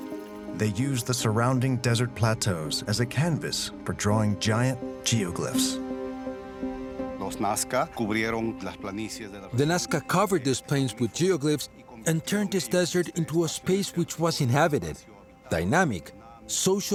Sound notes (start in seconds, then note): 7.1 speaking Spanish